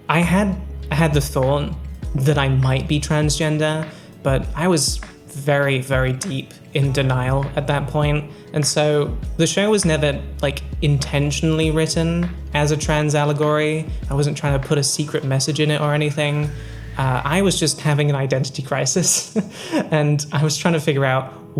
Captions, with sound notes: I had had the thought that I might be transgender but I was very very deep in denial at that point and so the show was never like intentionally written as a trans allegory I wasn't trying to put a secret message in it or anything I was just having an identity crisis [Laughs] and I was trying to figure out